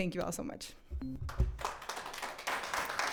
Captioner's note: audience clapping